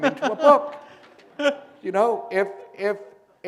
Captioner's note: laughter